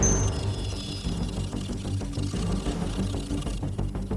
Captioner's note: dramatic music; device whirring